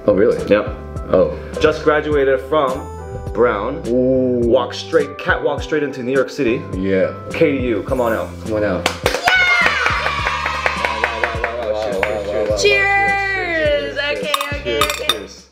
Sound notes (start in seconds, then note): 8.8 clapping; 9.2 crowd cheers